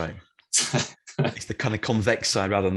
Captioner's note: laughs